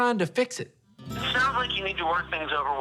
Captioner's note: on phone